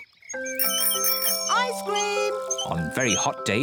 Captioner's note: oinks excitedly; rings bell